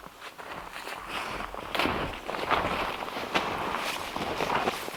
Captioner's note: footsteps crunching